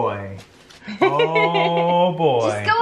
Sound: laughs

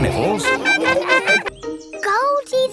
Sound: laughing

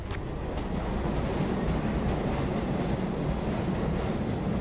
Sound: train whooshing

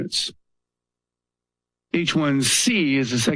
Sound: pause

